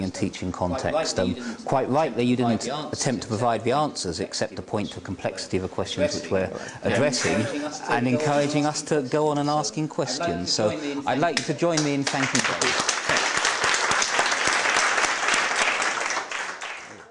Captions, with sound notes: teaching context. Quite rightly you didn't attempt to provide the answers, except to point to complexity of a question which we're addressing, and encouraging us to go on asking questions. So, I'd like you to join me in thanking David. [APPLAUSE]